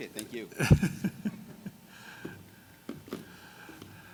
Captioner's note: laughs